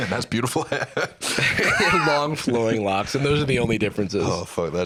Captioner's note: laughs